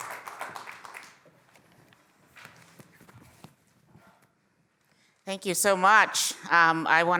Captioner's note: applause